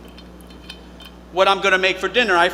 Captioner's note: cap clinking